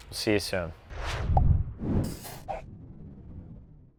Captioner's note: air whooshes